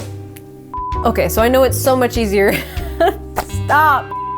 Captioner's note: laughing